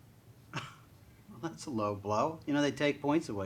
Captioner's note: scoffing